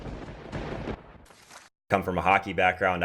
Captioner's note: lightning striking